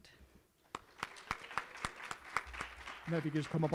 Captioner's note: applause